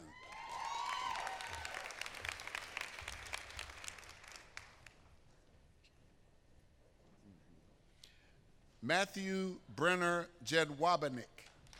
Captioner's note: applause